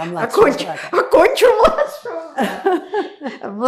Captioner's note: laughing